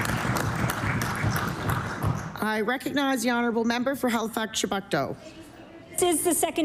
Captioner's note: applause